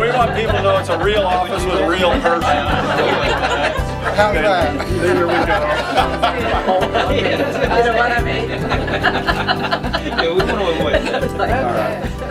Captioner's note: audience laughing